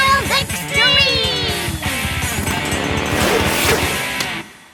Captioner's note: motorbike roars